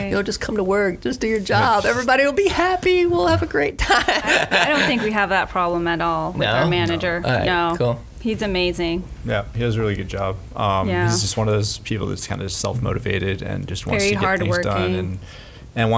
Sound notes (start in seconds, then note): 3.8 laughs